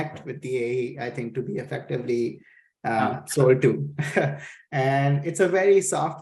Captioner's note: chuckles